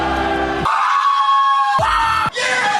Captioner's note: crowd cheering; guys scream